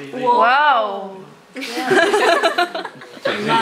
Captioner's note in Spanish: risas